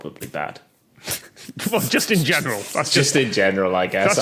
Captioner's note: others crack up